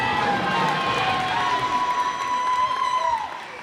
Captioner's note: cheers and applause